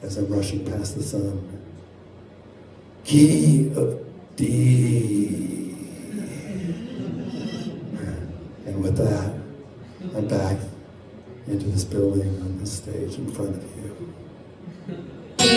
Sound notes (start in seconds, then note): 6.5 audience chuckles